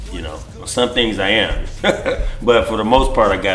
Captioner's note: laughs